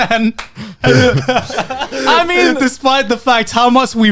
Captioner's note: all laughs